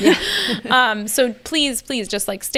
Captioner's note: both laughing